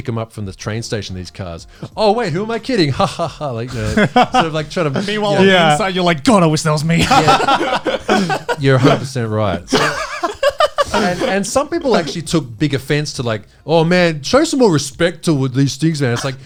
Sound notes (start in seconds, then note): 6.9 all laughing